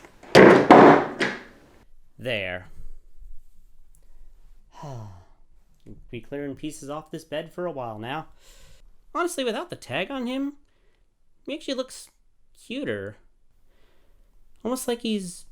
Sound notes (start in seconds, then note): 0.1 door to garage slams shut; 4.7 sigh